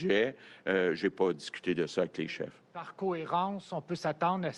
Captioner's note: speaks French